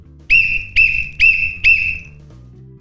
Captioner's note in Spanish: sonido silbato